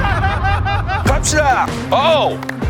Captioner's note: clapping After; clapping First